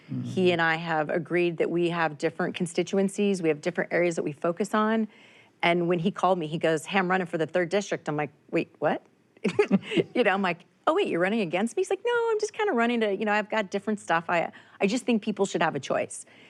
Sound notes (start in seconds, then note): 9.4 chuckles